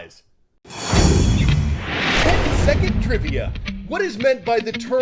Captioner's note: voice-over